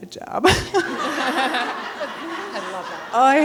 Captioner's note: people laughing